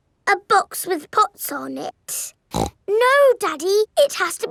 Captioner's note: snorts